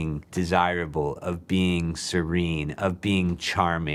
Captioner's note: none